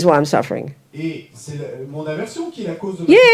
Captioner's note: audience member speaks in French